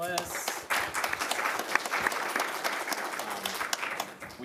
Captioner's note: audience claps